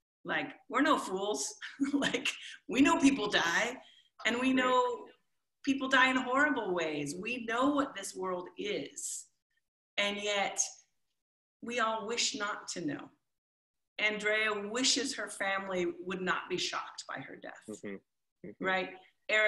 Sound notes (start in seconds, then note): 1.2 chuckles